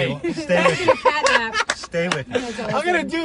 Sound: laughing

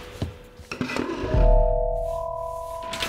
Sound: chair sliding

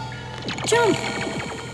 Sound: eerie music; lasers firing

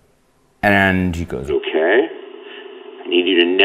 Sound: voiceover

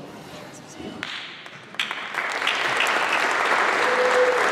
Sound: applause

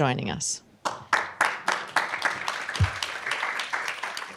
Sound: applause

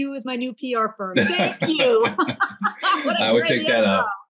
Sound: laughing

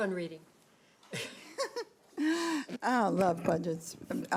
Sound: ladies laughing

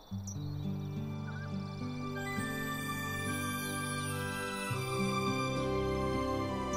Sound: gentle music; birds chirping

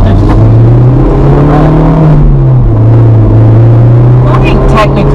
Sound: car revving noise

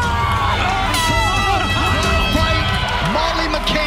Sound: end of round horn blares

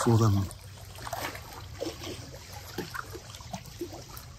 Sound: water lapping

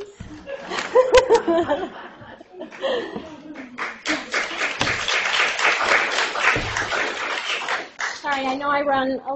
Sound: laughter and applause

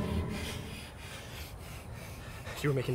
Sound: shhh; heavy breathing

